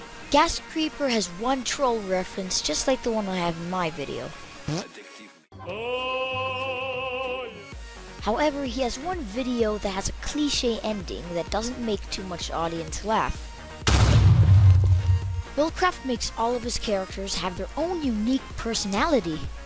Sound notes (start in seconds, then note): 4.6 fart; 13.8 explosion